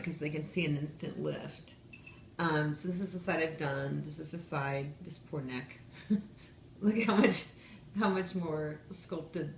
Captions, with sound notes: because they can see an instant lift. (device beeps) So this is the side I've done, this is the side, this poor neck. (laughs) Look at how much more sculpted